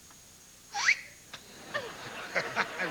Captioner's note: whistles